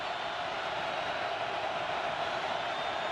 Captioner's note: crowd cheering